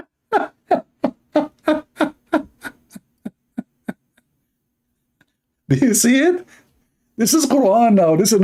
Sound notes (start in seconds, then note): 0.3 Ketawa